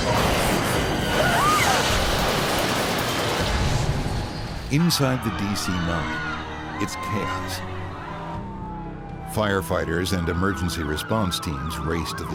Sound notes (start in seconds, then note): 0.0 airplane crashing; 1.0 passengers screaming; 1.4 humming; 7.1 passengers screaming; 7.1 sirens